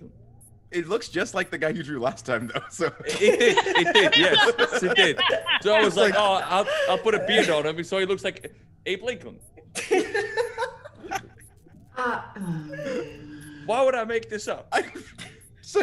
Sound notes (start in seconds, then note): 3.2 laugh; 12.3 laugh